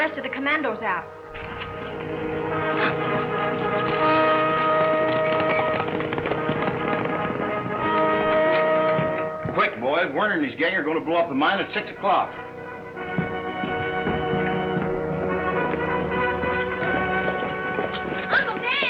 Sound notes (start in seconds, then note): 3.1 lively trumpet music; 5.8 horses galloping; 14.7 lively trumpet music